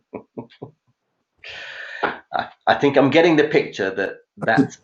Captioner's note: chuckling